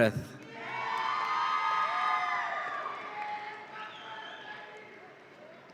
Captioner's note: audience applauds and cheers